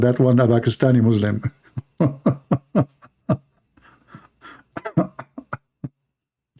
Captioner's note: Ketawa